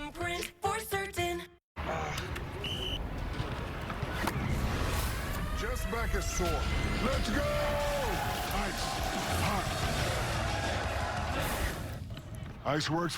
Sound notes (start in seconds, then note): 2.6 whistle blows; 10.4 chanting